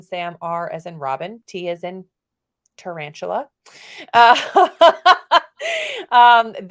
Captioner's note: laughs